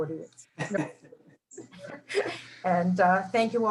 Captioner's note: laughing